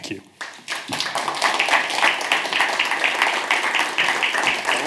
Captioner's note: audience clapping